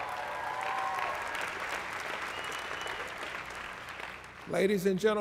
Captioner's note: applause